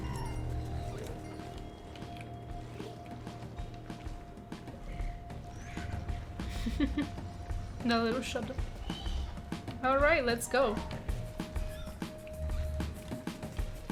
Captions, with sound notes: (Upbeat music starts) (Chuckle) That lil' shudder. Alright, let's go.